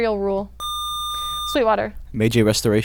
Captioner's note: buzzer